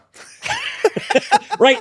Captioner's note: laughing